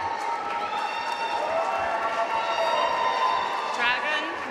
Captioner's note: audience cheering and applauding